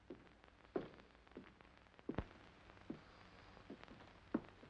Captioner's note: Eddie's footsteps